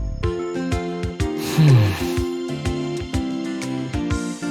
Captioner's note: sigh